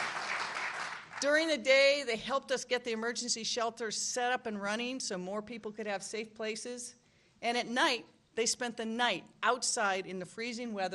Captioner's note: applause